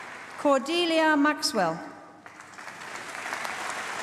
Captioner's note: applause